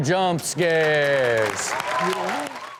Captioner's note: everyone cheers